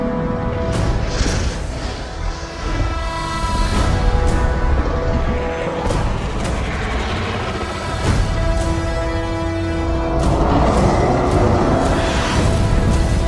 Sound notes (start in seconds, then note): 10.3 Kong roar